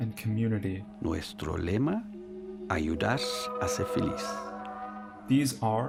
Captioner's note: speaks spanish